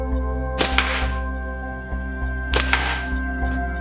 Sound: thwack

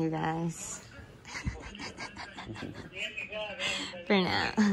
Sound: laughter

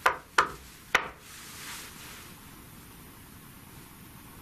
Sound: knocks on wall

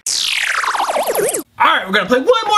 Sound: distorted static

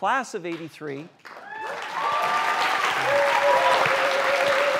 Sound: applause

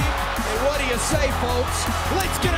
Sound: crowd cheering

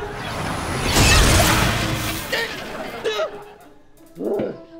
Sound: grunting

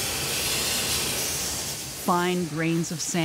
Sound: machine spraying

